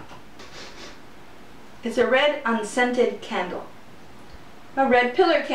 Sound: sniffing

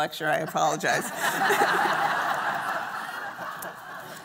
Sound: laughter

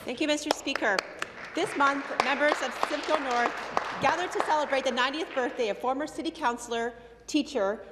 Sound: some applause

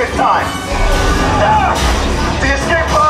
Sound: laser blaster noises'

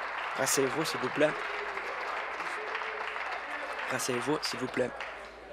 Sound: applause

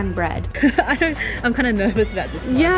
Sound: laughs

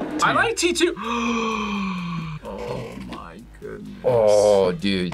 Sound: gasps

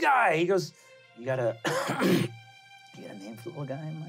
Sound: clears throat

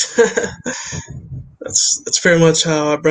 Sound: laughs

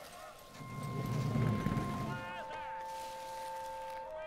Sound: engines roaring

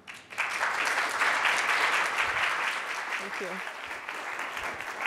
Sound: audience clapping

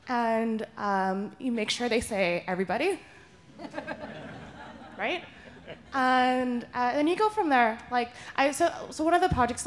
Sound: laughter

